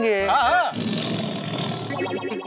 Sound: tiger roaring

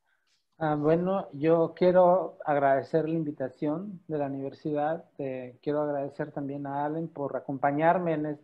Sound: in Spanish

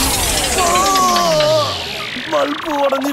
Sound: groans

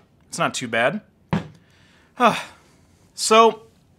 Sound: hard drive thumping

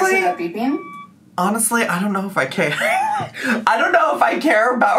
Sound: laughs

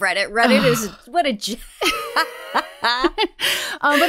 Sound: laughing

